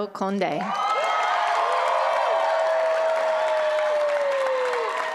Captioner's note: applause